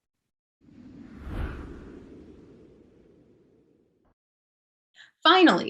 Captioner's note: light Whoosh